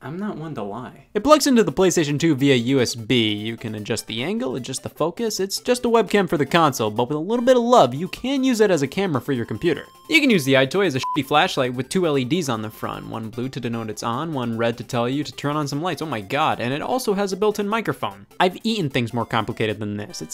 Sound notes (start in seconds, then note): 11.0 beep